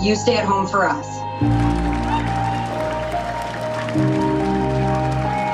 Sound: applause

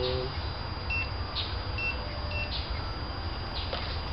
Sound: scanner Beeps

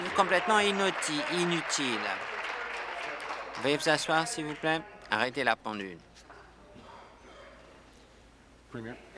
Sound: applause

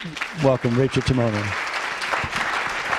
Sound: audience applause

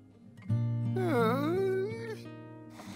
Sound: groans

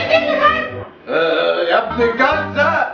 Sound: awkward uhh

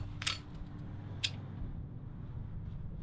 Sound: lighter Spark

